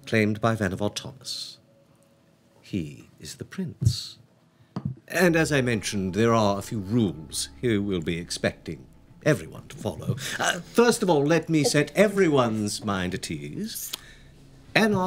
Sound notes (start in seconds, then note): none